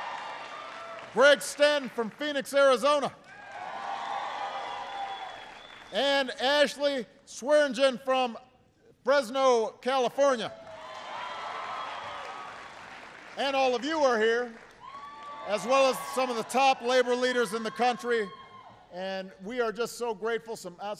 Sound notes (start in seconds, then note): 0.0 applause; 10.6 applause